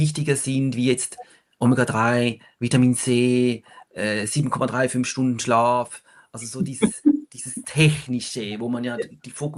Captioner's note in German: gelächter